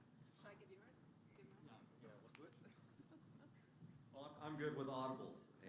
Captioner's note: laughter